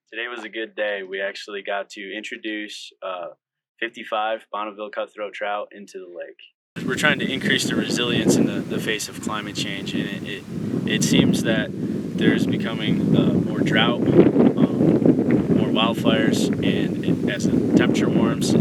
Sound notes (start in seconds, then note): 6.8 wind and running water